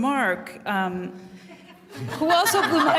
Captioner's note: laughter